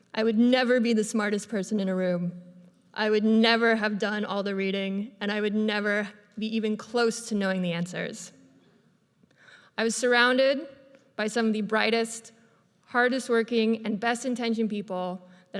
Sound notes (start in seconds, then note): none